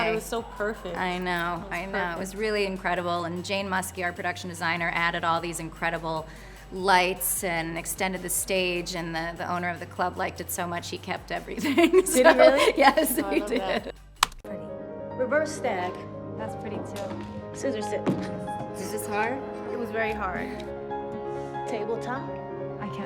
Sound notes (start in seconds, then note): 11.6 laughs